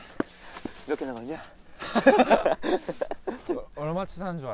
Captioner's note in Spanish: Jajaja